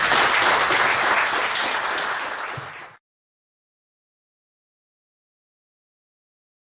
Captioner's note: applause